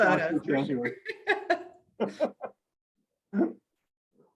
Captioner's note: both laugh